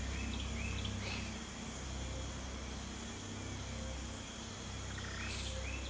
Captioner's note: sniffing